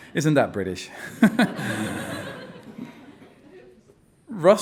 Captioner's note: all laughing